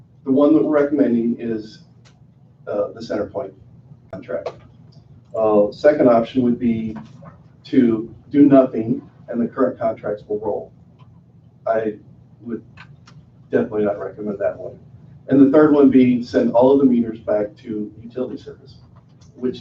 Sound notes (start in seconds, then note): none